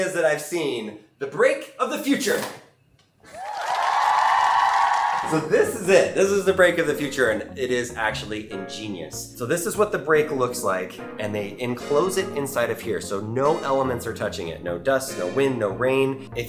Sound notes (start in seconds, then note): 3.3 audience cheers and applauds